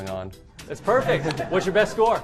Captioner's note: laughter